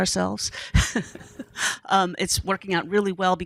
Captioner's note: laughing